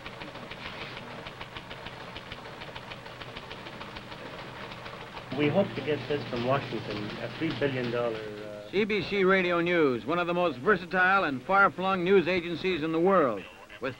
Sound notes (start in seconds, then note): 6.3 machine clicks